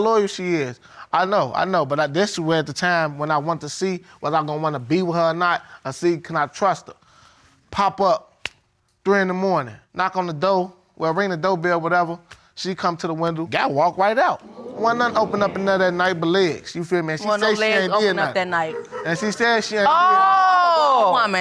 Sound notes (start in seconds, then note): 17.2 audience exclaiming